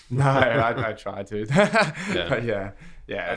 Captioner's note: laughs